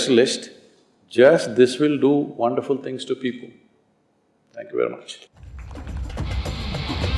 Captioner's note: applause